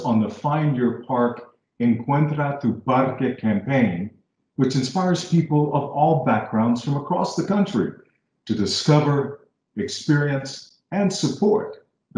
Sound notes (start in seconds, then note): none